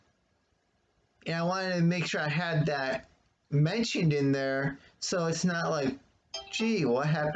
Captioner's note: ping of phone